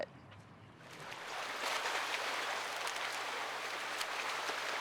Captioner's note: water splashing